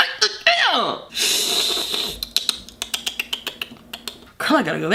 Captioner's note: pet call sounds